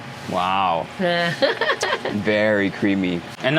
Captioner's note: laughs